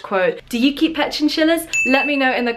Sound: ding

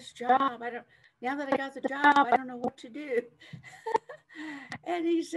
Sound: chuckles

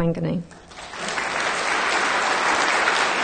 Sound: clapping

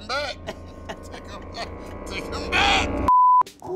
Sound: beep

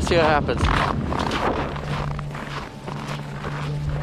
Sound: footsteps

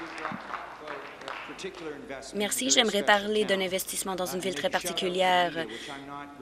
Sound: some Applause

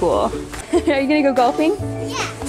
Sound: chuckling

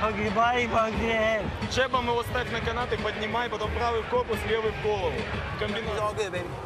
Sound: continues speaking foreign language

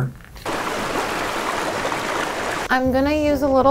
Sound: water rushing

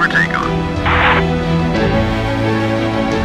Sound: walkie talkie static

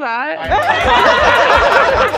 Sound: laughter

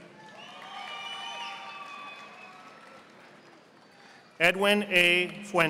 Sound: audience applauding

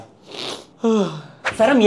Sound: yawns

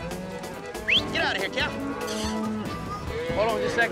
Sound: whistling

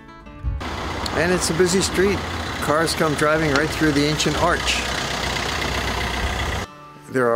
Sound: car noise

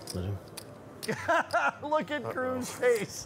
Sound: laughs

